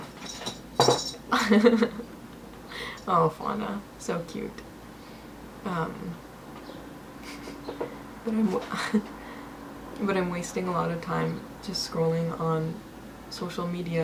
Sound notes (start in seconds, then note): 1.3 giggles